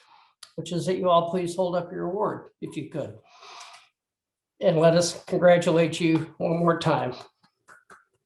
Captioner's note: faint clapping